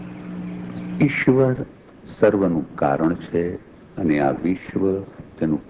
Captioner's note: speaking foreign language